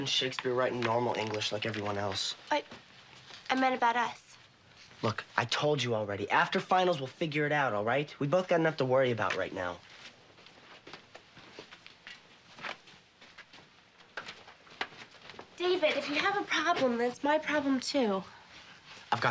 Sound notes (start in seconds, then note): 14.4 book thumping